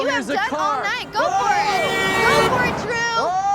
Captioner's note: horn honks